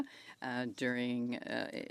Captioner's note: speaking French